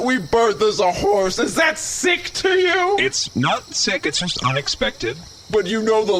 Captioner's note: yelling